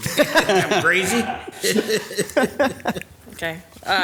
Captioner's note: laughter